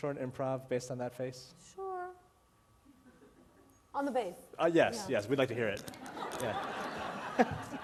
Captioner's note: laughter